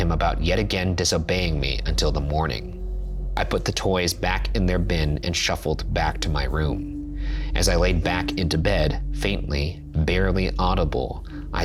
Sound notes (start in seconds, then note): none